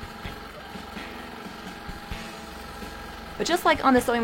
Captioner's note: longarm hums